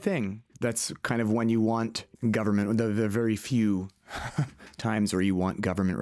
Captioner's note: laughter